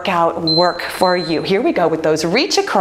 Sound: timer beeps

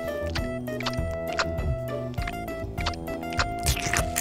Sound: chewing

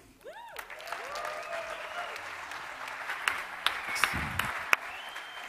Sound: audience cheering

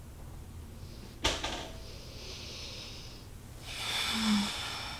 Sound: trash can falls over in living room

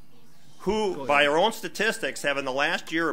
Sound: overlapping chattering

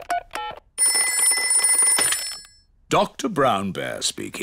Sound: ringing

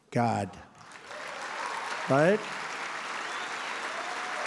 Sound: applause

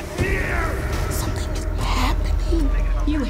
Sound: whispering

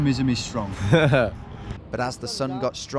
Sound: laughing

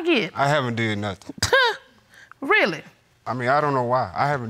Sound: scoffs

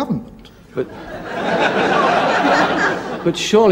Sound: audience laughs

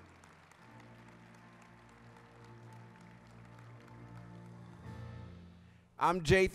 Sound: applause

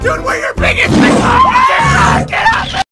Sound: Tiger Roars and Max Screams

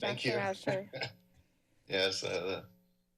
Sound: laughs

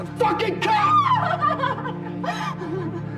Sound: screams

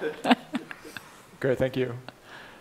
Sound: laughing

